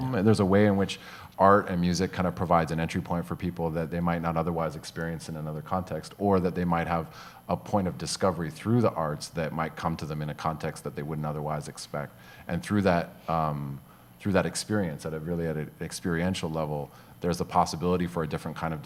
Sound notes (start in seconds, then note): none